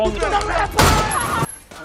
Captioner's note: yelling